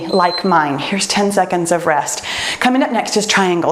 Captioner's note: timer beeps